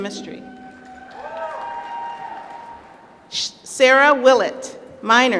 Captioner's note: applause